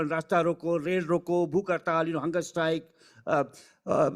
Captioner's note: speaking foreign language